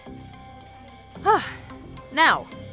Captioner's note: sighs